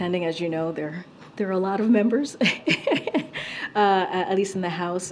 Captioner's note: laughs